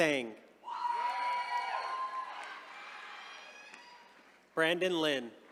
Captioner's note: attendees cheering